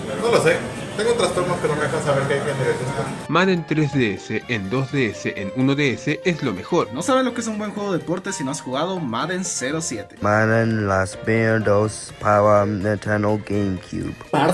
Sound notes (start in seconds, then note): none